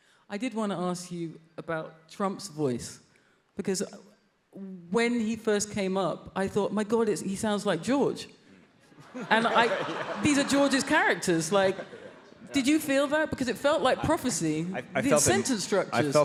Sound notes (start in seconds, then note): 9.0 audience laughs